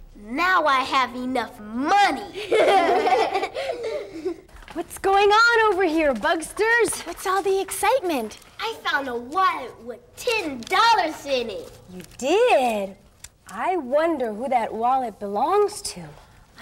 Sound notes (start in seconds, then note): 2.3 laughing